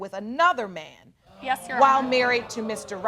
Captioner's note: audience exclaiming